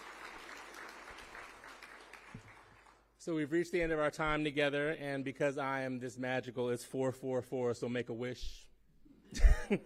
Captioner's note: applause